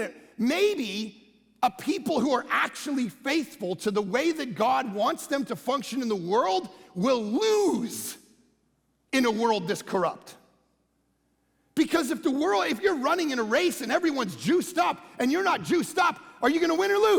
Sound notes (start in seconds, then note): none